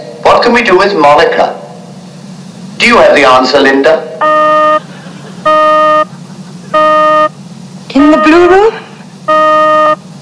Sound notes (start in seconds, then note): 4.5 beep